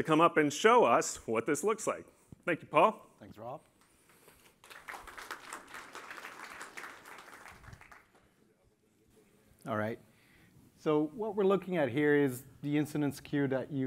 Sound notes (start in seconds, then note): 4.3 applause